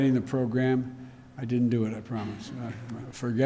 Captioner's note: laughter